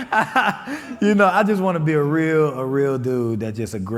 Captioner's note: laughing